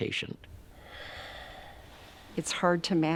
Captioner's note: man exhales deeply